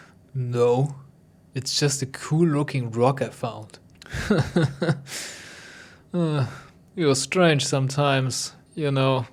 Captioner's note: condescending laugh